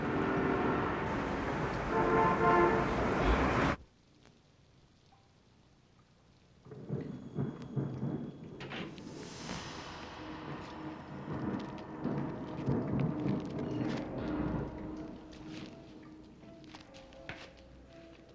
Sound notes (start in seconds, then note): 6.7 thunder